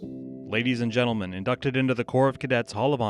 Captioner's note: voiceover